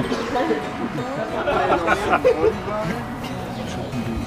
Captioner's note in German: Stimmengewirr, Lachen